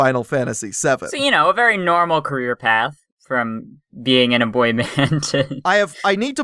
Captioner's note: laughs